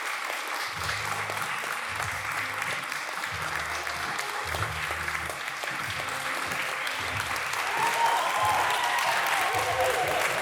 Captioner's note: cheering